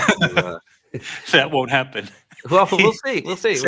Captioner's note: laughs